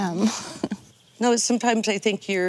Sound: chuckling

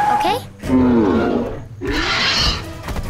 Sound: grunting, screeching

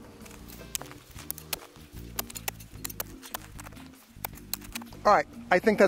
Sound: mellow electronic music; shovel thumps in dirt

